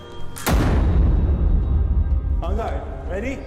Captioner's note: loud booming